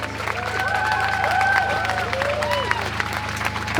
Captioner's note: cheering